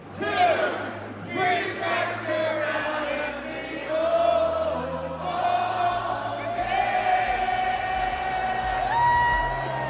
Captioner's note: cheers/applause